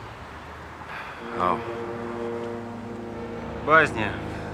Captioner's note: sighs